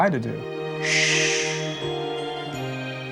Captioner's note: shushing